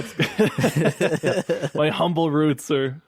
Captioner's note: laughing